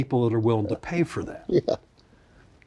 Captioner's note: chuckles